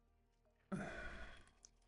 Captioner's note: sighs